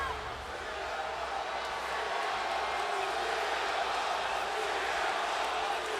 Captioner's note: crowd chants "CM Punk"